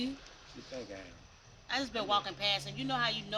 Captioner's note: laughs